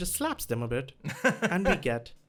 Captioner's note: chuckles